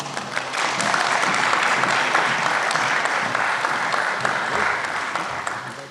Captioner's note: applause